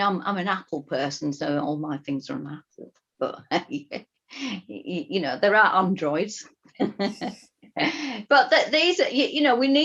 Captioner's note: laughing